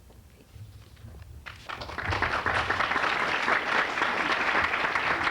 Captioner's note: applause